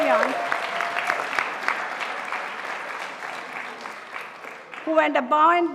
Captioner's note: audience applauding